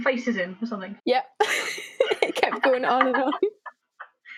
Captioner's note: laugh